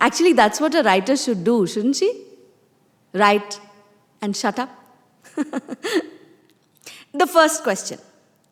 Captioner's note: laughs